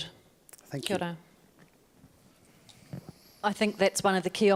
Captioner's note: speaking in foreign language